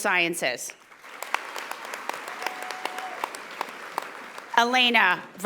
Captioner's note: audience applauding